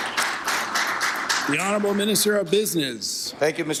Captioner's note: applause